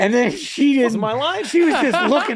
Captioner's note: laughing